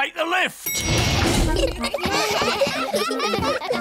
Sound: elevator bell dings; all giggling

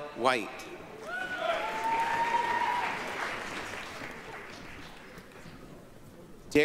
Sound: applause, cheering

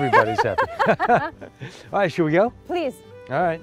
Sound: laughter

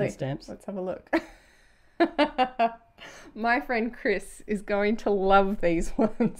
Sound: laughs

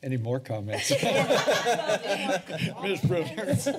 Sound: laughter

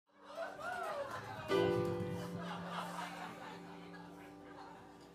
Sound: laughing

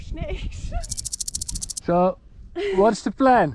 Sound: snake tail rattling

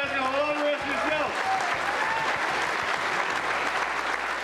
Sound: applause

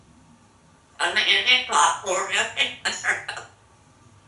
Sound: gibberish with laughter

